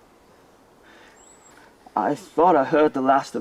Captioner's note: birds chirping